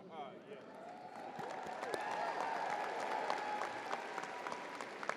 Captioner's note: crowd applauding